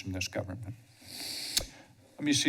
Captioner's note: smacks lips